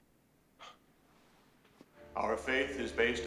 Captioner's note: scoffs